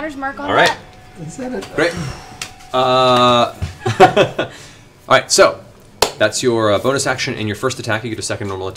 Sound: laughs

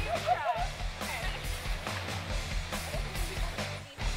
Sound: upbeat rock music; women laughing; women chattering

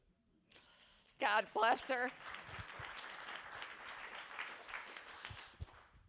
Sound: attendees applauding

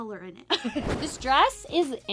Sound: laughs

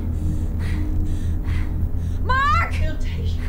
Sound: breathes heavily

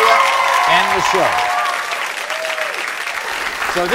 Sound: applauding

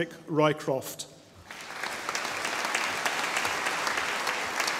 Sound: audience applauding

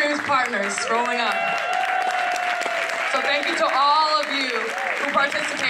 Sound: applause

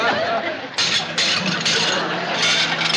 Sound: dishes breaking

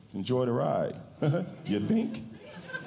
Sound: laughs twice

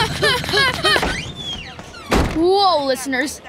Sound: both breathing heavily; door opening and shutting

